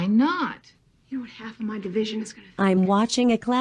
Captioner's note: on TV